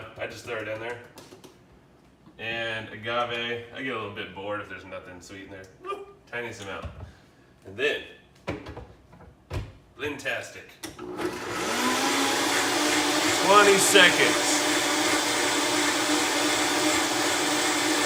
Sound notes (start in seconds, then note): 11.0 blender whirrs